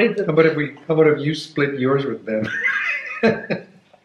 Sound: laughing

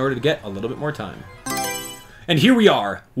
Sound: Mario Selection Sound

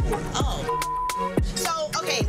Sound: beep

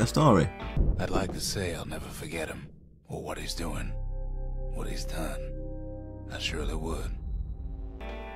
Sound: in-game audio

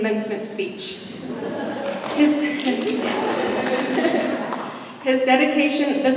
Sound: laughter

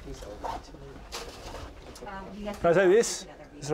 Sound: chatter

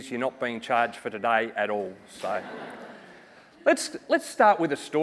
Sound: audience chucking

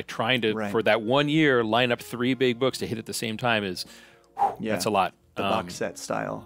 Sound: whew

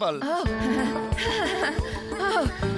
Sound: giggling

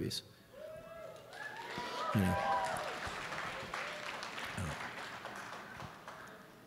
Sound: audience cheering and applauding

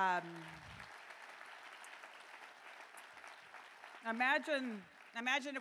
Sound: applause

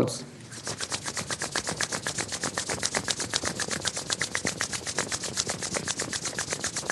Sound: briskly rubbing palms of hands together

